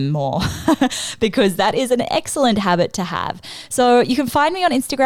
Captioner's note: laughs